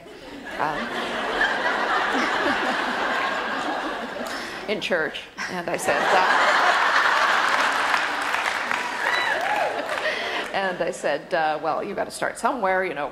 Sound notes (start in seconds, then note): 0.0 audience laughter; 5.4 audience laughs loudly